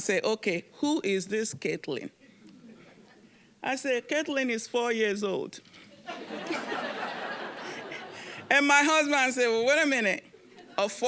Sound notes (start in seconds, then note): 6.0 audience laughing